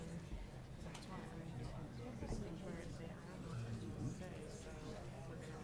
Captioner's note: people chattering